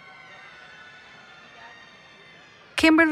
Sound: cheering

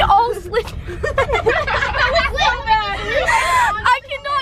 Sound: girls laughing

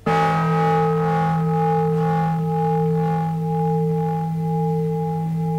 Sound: bell rings

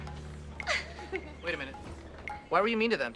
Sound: annie laughs

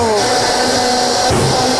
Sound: blender grinding; ice cream banging

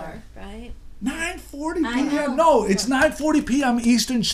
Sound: voiceover

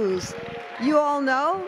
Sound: cheers and applause

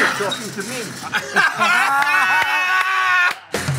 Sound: laughter

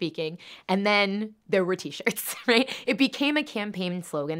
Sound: laughs

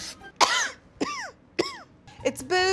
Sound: coughing

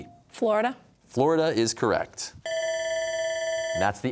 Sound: bell ringing

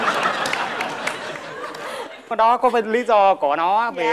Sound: applause

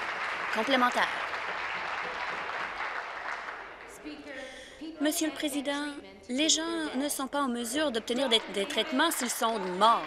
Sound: applause

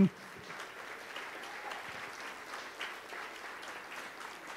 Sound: audience applauds

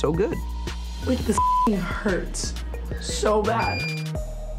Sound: beeps

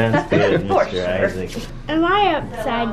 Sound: laughs

